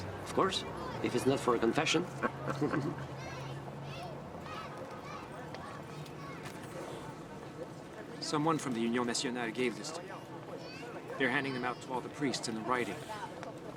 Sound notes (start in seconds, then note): 1.9 kids laugh and play; 2.0 men laugh